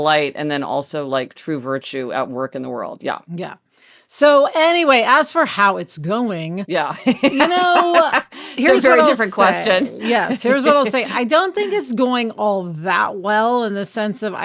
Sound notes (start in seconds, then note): 7.0 laughing